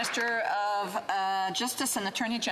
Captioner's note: speaking French